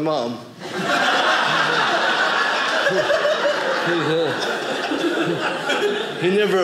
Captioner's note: audience laughing